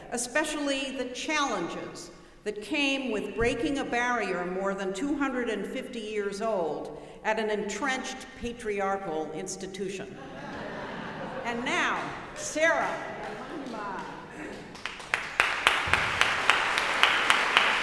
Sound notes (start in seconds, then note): 10.1 audience laughing; 14.5 audience applauding